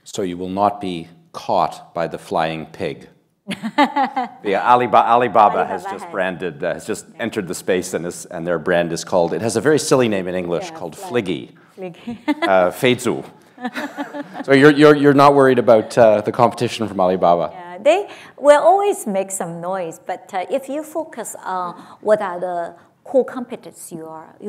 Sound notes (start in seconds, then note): 3.4 laughs; 12.9 speaks Chinese